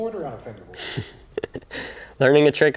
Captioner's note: chucking